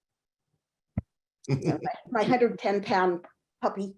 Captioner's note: chuckling